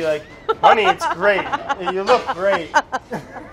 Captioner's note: laughing